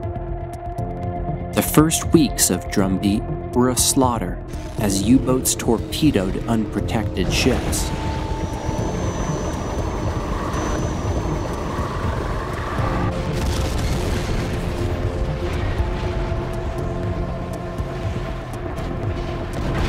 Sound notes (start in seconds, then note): 7.7 water bubbling; 12.8 explosion booms; 17.1 tense music; 19.1 explosion booms